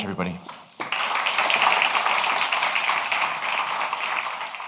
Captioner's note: audience applauds